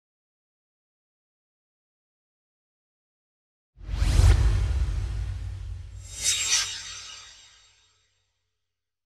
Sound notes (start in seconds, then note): 3.8 swoosh